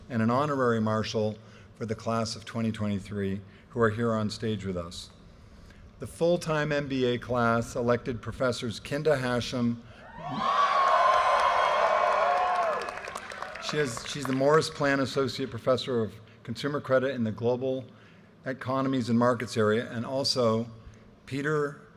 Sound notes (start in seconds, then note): 10.2 audience cheers and applause